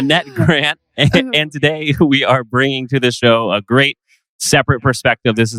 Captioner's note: laughs